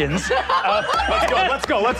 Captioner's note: players laughing